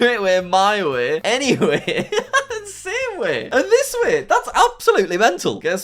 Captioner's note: laughs